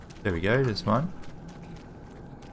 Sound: none

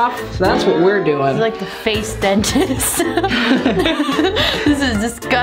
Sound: laughs

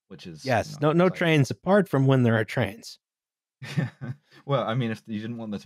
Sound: laughs

